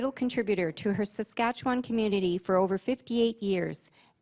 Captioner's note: voice-over